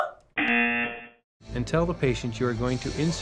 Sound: laughs; buzzer rings

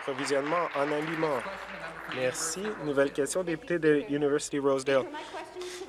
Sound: applause

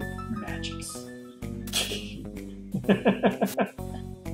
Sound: laughs

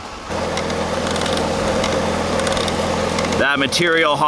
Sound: machines humming

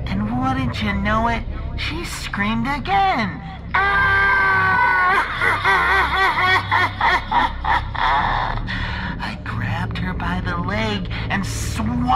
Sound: screams

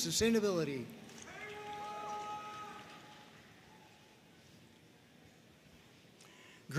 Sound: audience cheering and applauding

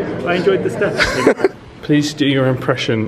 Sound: laughs

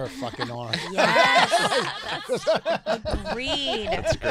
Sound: laughing

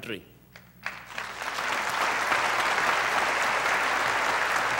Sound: audience applauding

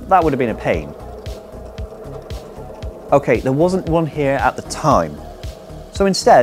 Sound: drilling

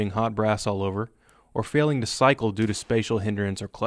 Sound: gunfire

